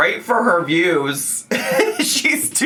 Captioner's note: laughing